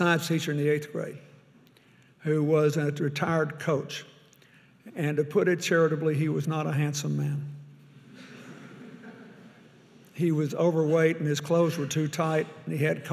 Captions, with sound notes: I had a science teacher in the eighth grade who was a retired coach and to put it charitably, he was not a handsome man. (audience laughing) He was overweight, and his clothes were too tight,